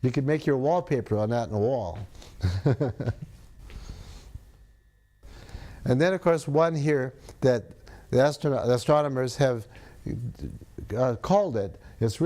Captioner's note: laughs